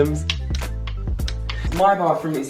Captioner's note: giant clothespin clacking together